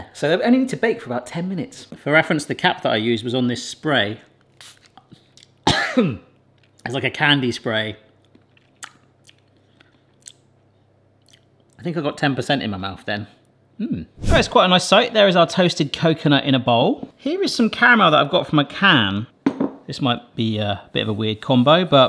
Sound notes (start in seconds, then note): 4.5 spray hisses; 5.6 coughs; 8.3 smacking lips